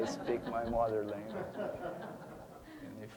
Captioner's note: audience laughing